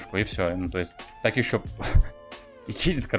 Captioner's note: chuckles